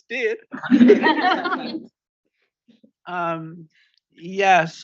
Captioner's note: audience laughs